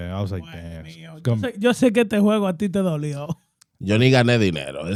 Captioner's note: speaking In Foreign Language